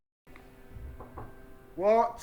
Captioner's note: door knocking